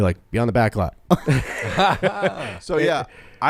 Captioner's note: everyone laughs